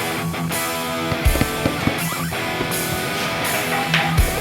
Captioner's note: rock music; ball dribbling